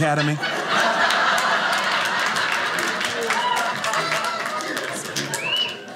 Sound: audience clapping

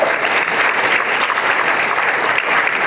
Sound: applause

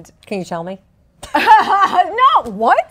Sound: both laughing

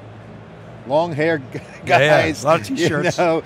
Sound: laughs

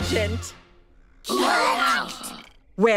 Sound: gasping

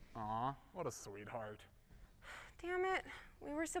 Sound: none

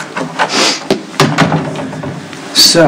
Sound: door opens and shuts

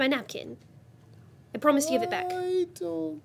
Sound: groans

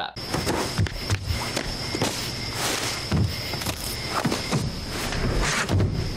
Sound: crickets chirping; feet thudding

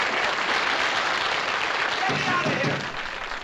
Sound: pounding

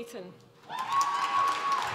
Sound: applause

